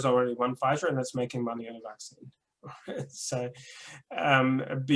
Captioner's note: chuckles